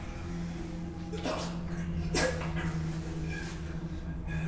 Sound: coughs

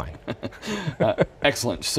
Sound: both laughing

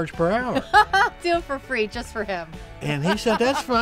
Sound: laughs

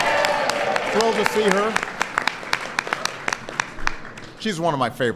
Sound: applause

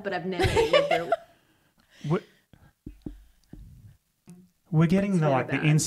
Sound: laughs

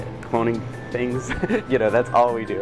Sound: laughs

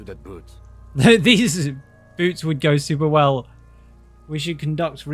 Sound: laughs

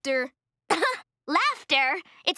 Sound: chuckles

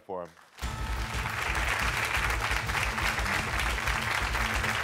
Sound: audience cheering

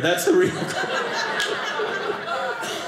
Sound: audience laughing

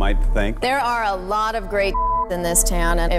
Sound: beep

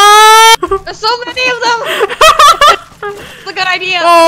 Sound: laughs

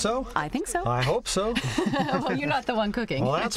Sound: laughing

